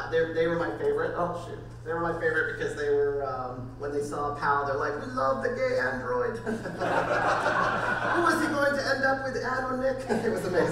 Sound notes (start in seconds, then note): 6.5 crowd laughing